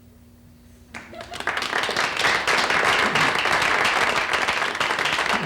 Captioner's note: audience applauding